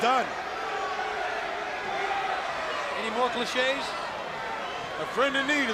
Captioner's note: crowd chatter